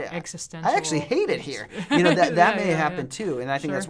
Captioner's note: laughs